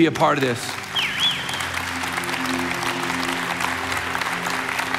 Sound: congregation cheering

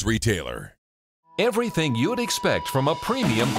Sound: voiceover

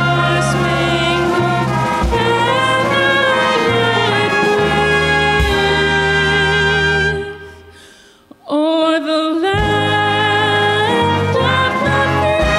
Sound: applause, Cheering

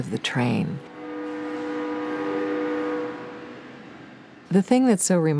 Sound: train whistling

